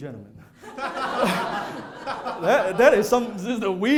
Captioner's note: laughter